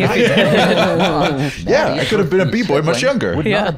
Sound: laughing

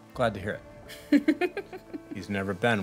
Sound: chuckling

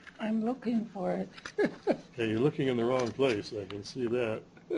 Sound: chuckles; chuckles

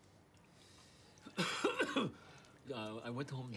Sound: Ezold coughing

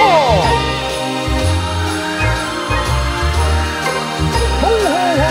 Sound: wind whooshing

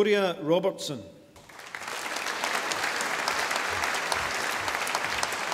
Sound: audience applauding

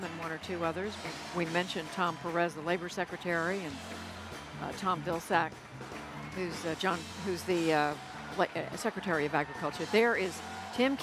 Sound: cheers & applause

